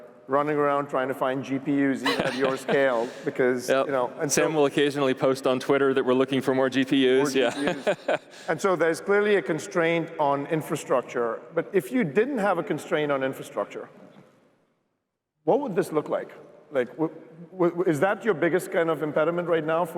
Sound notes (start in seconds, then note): 7.0 laughing